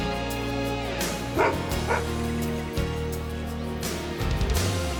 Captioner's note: Bob barks